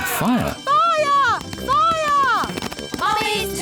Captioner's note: alarm blares